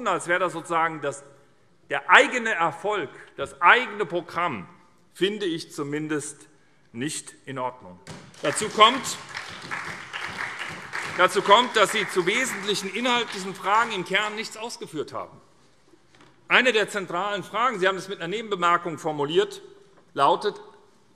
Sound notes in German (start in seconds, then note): 8.2 Beifall SPD